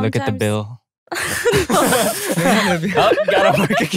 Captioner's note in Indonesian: tertawa